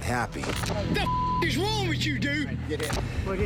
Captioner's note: beep